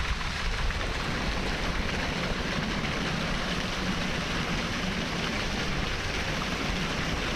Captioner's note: water fountain running